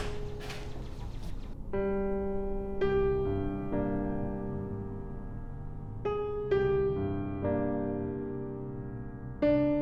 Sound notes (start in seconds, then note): 0.0 door closing; 2.9 gentle music